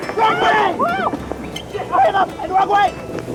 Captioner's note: shouting